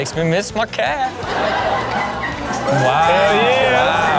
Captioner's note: audience laughs